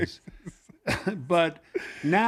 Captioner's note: laughs